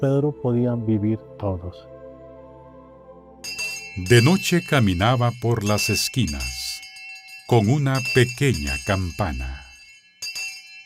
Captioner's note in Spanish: campana